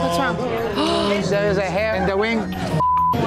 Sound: gasps; beep

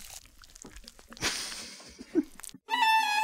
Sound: crew laughing

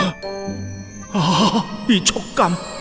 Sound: Mr. Bread moans

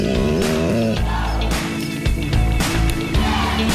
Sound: groans; uplifting music

